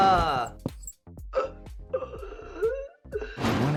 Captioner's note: man wheezing